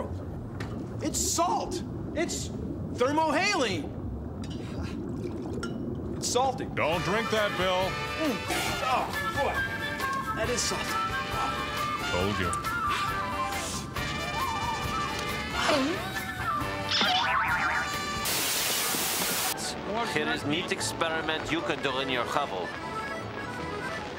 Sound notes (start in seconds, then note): 4.3 chuckles; 16.4 boing; 16.6 sproing